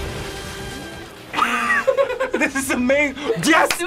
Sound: buzzer; both laugh

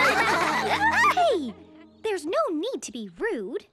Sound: laughing

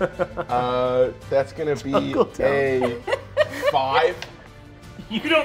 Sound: players laughing

